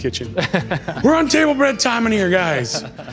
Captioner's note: laughs